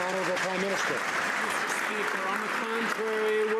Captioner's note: some Applause